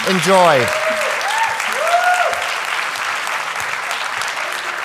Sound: audience applauding

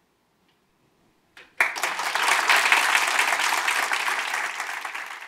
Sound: applause

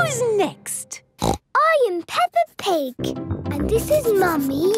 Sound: snorts

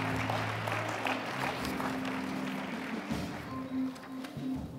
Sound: applause

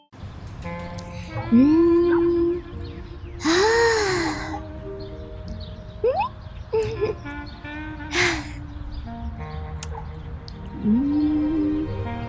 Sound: staring into the distance and Sighs

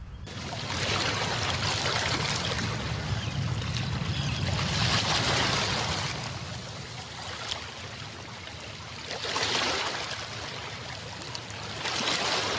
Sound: ocean waves

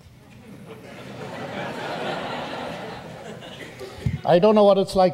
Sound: audience laughs

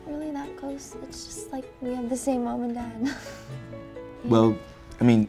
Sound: laughs

